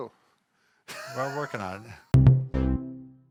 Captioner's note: laughs